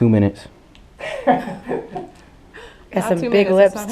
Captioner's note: laughing